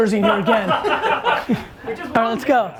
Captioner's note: laughs